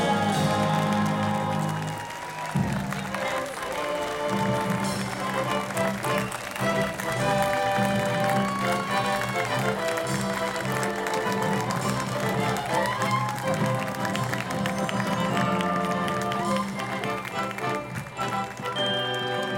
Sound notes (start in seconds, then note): 1.8 inspirational music; 1.8 soft clapping